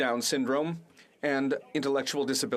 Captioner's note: speaking French